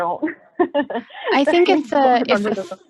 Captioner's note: laughs